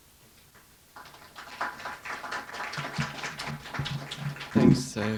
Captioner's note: applause